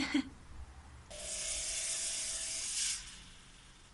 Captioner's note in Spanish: Risita nerviosa; efectos de sonido ultra hd de humo